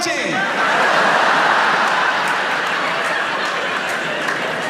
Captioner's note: audience laughs